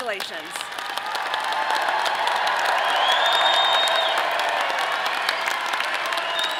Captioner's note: audience applauding and cheering